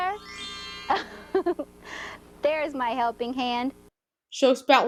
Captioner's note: giggles